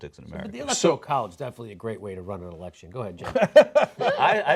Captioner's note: cenk laughs